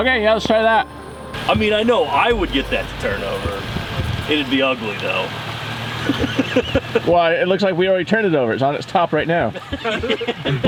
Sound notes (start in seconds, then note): 6.0 laughing